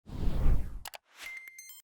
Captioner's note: air whooshing; mouse clicking; gentle music